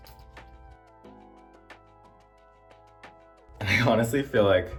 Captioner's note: muted audio